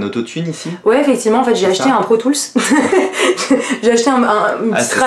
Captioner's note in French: rire